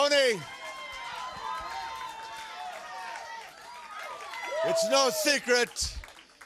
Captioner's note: crowd cheering